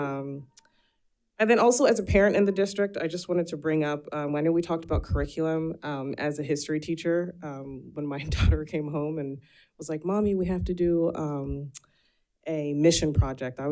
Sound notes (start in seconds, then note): none